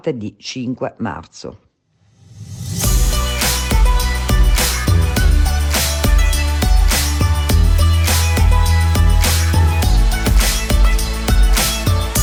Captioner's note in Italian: Applauso